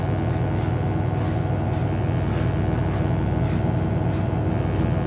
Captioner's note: electric buzzing